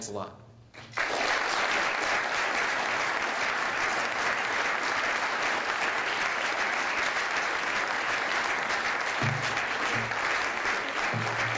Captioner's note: applause